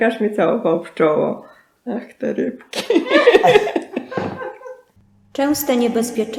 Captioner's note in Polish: śmiech